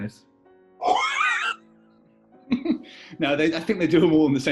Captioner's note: laughter